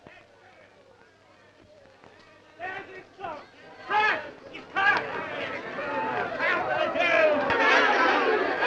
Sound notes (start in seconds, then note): 0.6 crowd shouting